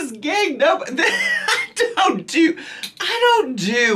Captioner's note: laughing